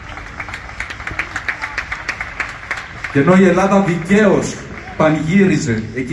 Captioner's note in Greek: χειροκρότημα